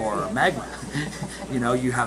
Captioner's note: chuckling